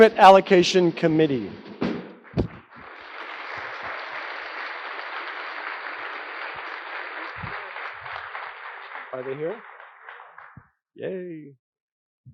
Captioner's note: applause